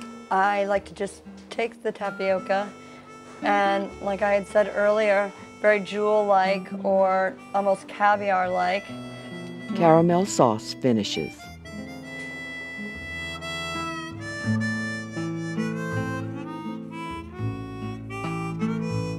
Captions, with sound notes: I like to just take the tapioca, and like I had said earlier, very jewel-like, or almost caviar-like. - [Voiceover] Caramel sauce finishes. (tempered music)